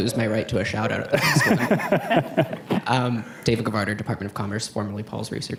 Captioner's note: laughter